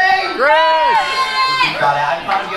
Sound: crowd

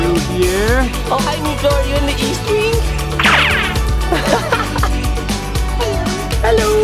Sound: laughs

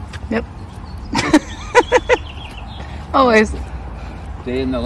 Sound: laughs

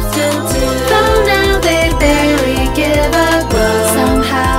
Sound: owoooooooo

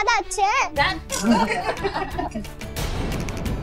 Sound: laughing

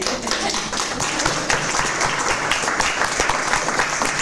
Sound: clapping

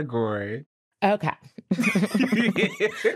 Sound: all laughing

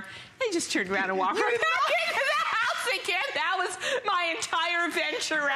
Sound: laughter

